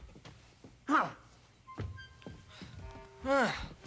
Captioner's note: Opah scoffs